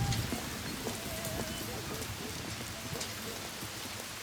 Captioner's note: dog barking